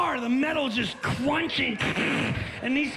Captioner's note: makes crunch sounds